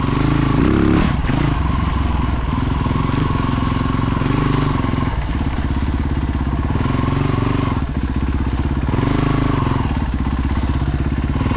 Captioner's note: engine roaring